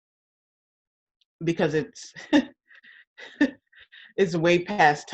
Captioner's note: laughs